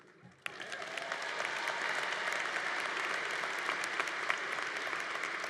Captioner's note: congregation applauding